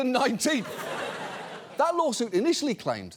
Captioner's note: audience laughs